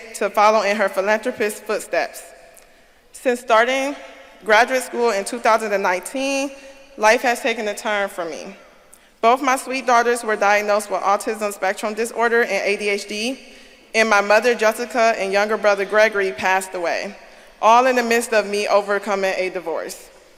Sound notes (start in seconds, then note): none